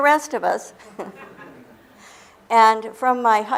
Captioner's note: laughter